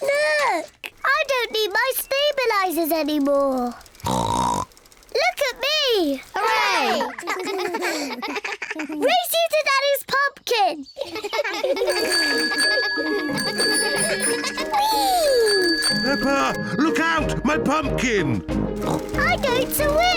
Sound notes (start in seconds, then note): 4.0 snorts; 6.8 all laugh; 11.0 all laugh; 11.8 bicycle bell ringing; 18.8 snorts